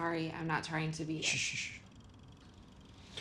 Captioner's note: Hank sushes